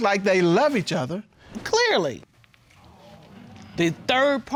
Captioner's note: audience exclaiming